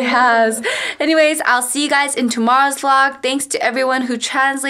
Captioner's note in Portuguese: risos